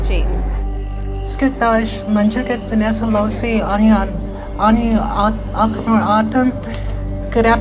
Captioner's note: in Native language